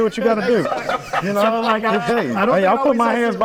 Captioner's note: everyone laughing